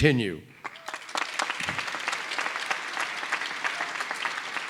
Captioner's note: applause